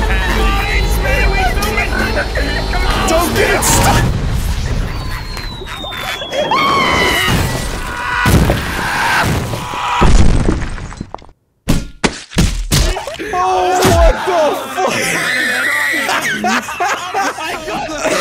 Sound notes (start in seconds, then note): 1.4 dying of laughter; 6.3 screams in falling milkbag